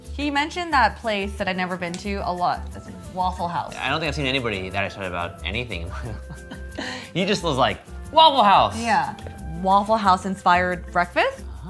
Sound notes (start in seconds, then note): 5.8 laughs